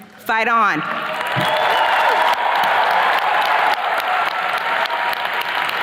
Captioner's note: attendees cheers and claps